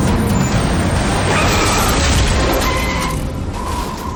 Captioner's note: tires screeching